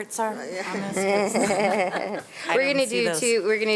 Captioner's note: board members and laughing